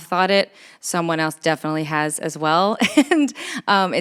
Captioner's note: chuckles